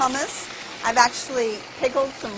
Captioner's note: whirring